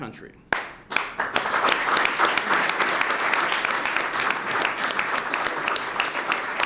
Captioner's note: applause